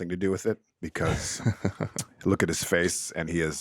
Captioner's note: laughing